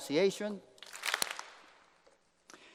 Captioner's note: applause